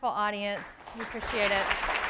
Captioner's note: applause